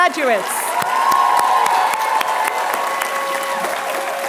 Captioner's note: applause